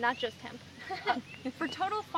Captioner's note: laughs